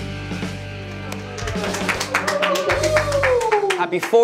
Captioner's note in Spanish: aplausos